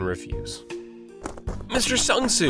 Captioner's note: pitter patter